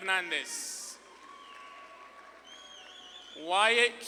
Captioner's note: audience claps and cheers